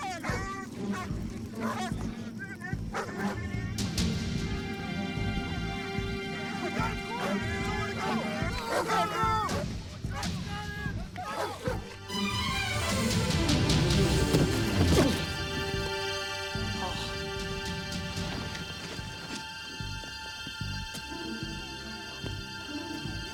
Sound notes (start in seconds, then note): 0.0 dogs barking; 0.1 adventurous music; 15.0 Rick groans; 20.0 tense music